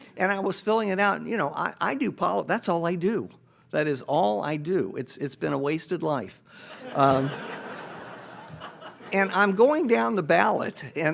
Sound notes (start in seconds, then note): 6.7 audience laughs